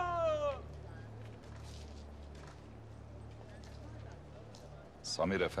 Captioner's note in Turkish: Sokak ortam sesi